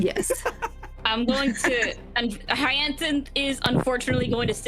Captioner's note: laughing